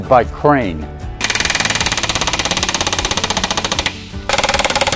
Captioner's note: machinery clacking